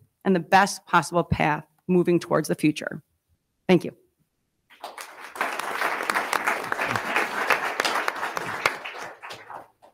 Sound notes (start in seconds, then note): 4.7 attendees clapping